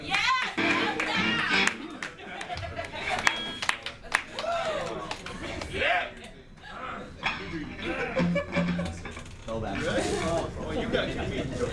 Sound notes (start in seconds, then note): 0.0 crowd claps and cheers louder; 3.9 crowd talking and cheering